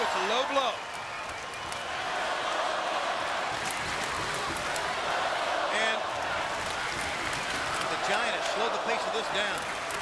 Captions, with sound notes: It's a low blow. >> [APPLAUSE] >> And the Giant has slowed the pace of this down.